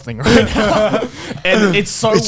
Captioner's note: all laughing